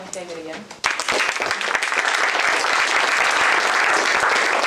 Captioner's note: applause